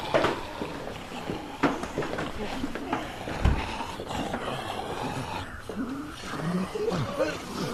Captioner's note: zombies growling